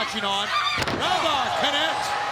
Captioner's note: body thudding